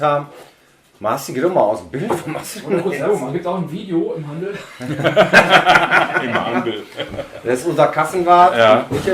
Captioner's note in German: Lachen